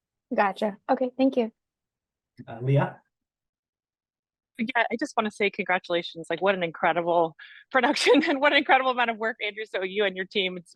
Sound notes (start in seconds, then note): 7.8 laughter